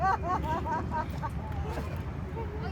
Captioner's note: VISITOR laughs